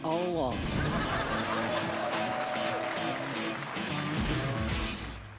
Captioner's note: audience laughter, applause